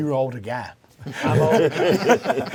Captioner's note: all laugh